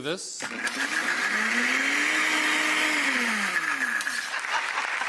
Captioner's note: blender whirs; audience claps